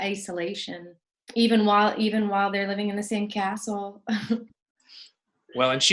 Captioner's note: laughs